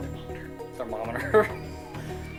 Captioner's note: laughing